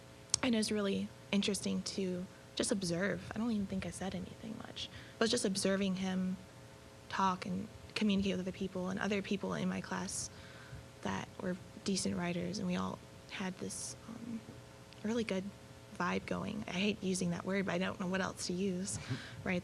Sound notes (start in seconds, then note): none